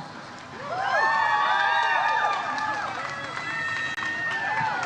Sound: audience cheers

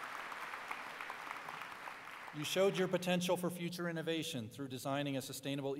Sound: applause

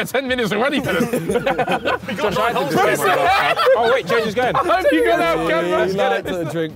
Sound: all chattering; all laughing

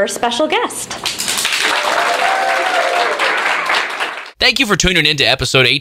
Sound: cheering and clapping

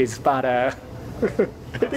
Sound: chuckle

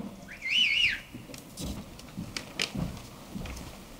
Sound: whistling

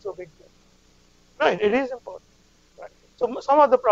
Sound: audience member interrupts

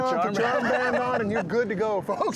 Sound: laughing

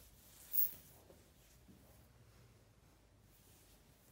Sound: floor squeaks

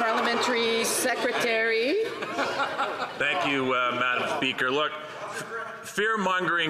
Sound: some Applause

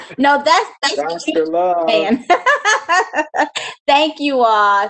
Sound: laughs

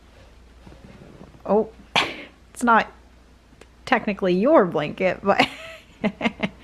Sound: laughing

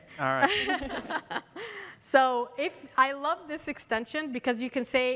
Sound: laughter

